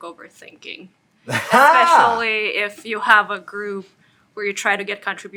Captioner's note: laugh